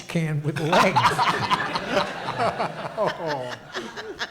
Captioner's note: audience laughs